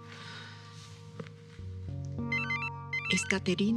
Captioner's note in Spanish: Suena el celular